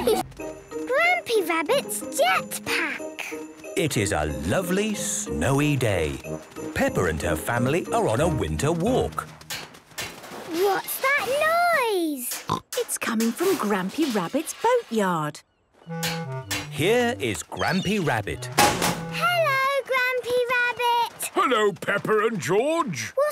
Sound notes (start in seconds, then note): 8.8 distant banging, crashes; 18.4 chrashing